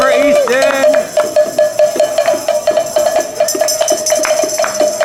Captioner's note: bells ringing